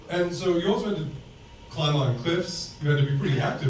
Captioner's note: none